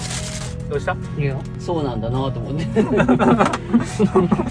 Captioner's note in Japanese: 笑い